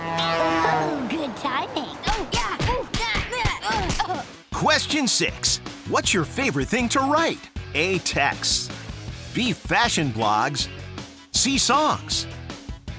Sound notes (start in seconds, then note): 2.1 punching